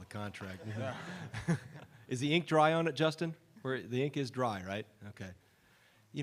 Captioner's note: laughter